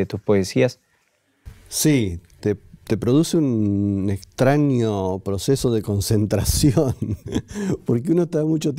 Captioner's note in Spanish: risas